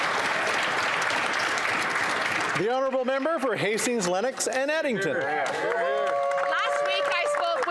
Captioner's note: applause